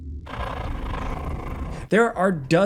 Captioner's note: alien growls